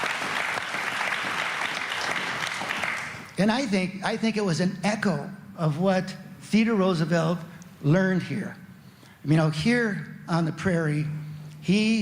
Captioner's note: applause